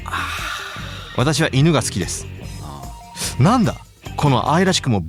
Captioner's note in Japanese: ため息